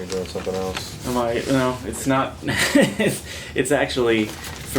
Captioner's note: laughs